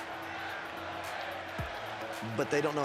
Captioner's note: crowd chants "Let's go, AJ"